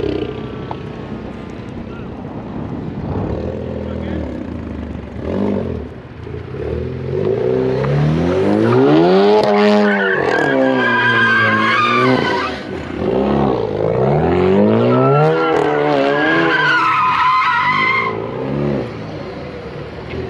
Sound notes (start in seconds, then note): 0.2 engine whirring; 7.9 engine revving; 7.9 tires squeaking; 15.2 engine revving; 15.2 tires squeaking